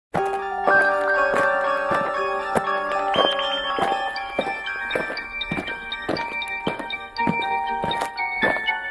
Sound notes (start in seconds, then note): 0.2 eerie music; 2.9 footsteps thumping